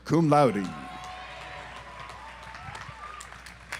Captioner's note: audience applauds